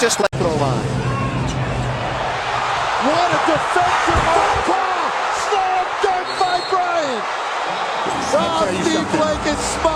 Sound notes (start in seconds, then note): 2.1 crowd erupts